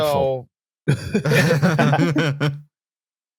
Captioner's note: laughter